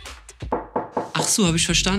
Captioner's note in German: Klopf Klopf